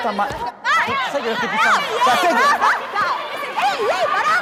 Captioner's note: yelling